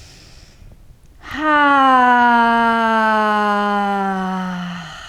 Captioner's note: sighing deeply